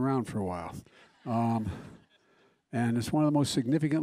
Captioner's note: laughter